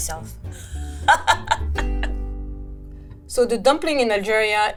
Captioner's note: chuckling